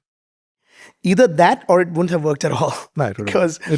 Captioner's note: chuckles